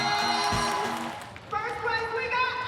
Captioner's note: crowd cheers